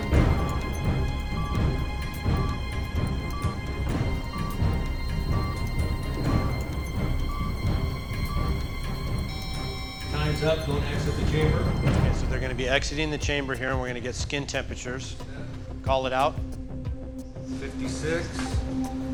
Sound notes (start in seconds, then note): 9.0 loud beep